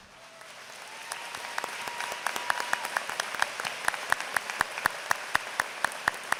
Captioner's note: applause